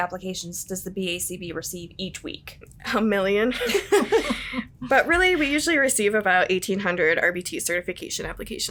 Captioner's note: everyone Laughs